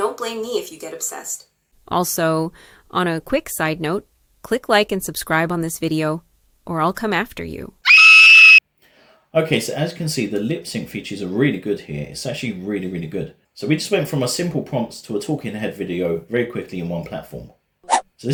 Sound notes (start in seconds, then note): 7.8 scream sound